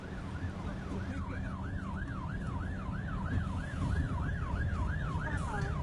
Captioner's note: siren sounding